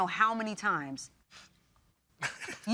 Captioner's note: scoffs, chuckles